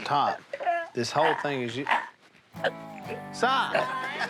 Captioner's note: Si choking